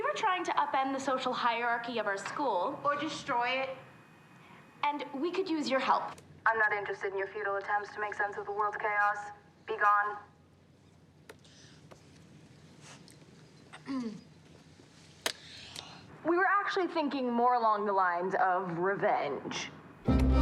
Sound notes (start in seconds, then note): 13.7 clears throat